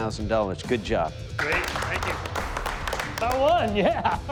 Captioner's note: applause; laughs